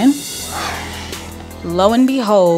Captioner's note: scoffs